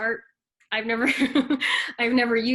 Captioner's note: laughs